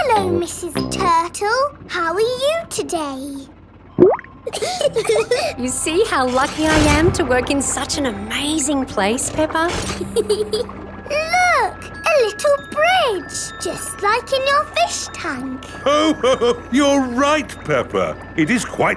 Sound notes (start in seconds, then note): 3.9 bubbles; 4.4 laughing; 9.6 peppa giggles; 15.8 laughs